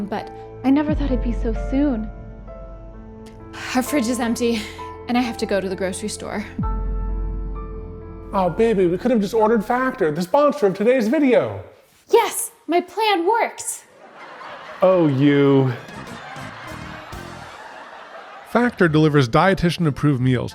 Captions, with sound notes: but I never thought it'd be so soon. Our fridge is empty and I have to go to the grocery store. (somber music continues) Oh baby, we could have just ordered Factor, the sponsor of today's video. Yes, my plan worked! (audience laughing) Oh, you! (audience laughing) (upbeat music) Factor delivers dietician approved meals